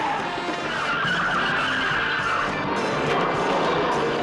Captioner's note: tires squealing